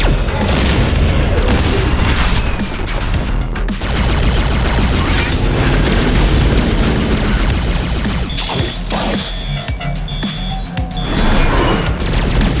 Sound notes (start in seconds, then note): 0.1 intense music continues; 8.6 alarm blaring